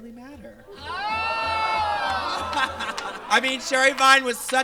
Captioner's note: audience exclaims